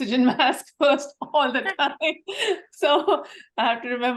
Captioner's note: laugh